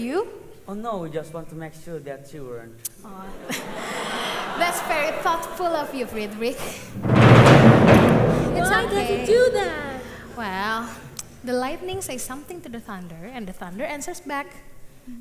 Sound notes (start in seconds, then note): 6.9 big thunderstorms